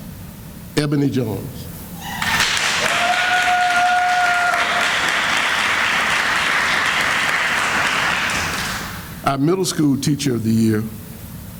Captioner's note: sounds of applause